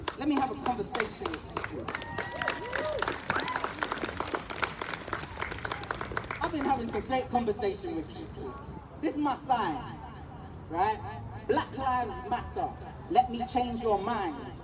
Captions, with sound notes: let me have a conversation with people.” [Whooping] [Applause] I’ve been having some great conversations with people. This is my sign, right? “Black Lives Matter. Let me change your mind.”